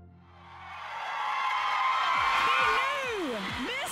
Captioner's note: everyone cheering